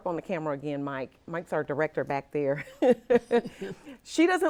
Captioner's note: laughs